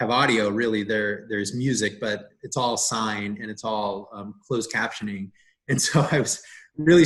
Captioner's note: laughs